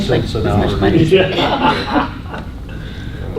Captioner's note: laughter